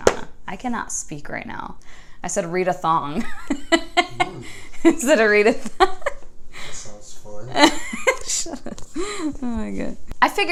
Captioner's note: laughter